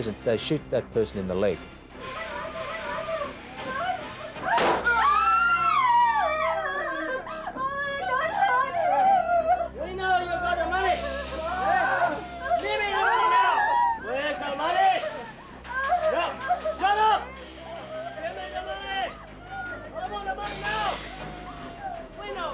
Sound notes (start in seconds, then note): 2.0 bystanders clamoring; 4.4 women exclaiming; 4.6 gunfire popping